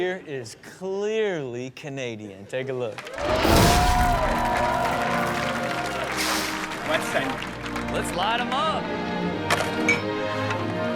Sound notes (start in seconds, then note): 3.7 audience applauds; 6.9 murmurs